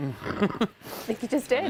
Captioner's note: laughter